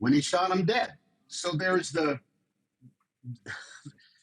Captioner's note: chuckles